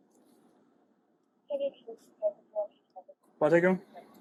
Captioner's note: radio chatter